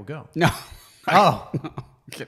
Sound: laughs

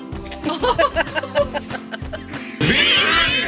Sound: group laughing

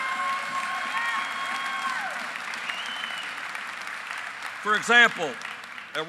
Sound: applause

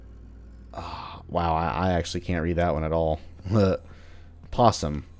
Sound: chuckles

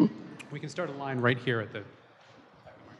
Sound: voiceover

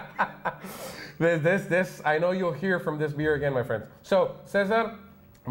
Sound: laughs

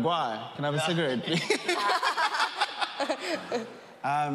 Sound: laughing

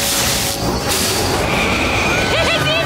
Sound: screaming

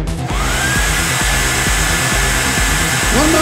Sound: powerful Air Dryer Noise

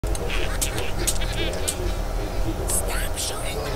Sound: Bart and Lisa Laughing

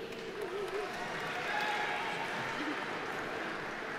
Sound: audience applauding

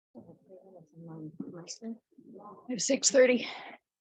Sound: board muttering

